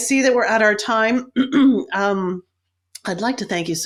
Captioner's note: coughs